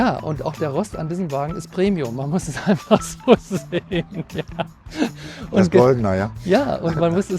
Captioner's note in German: gelächter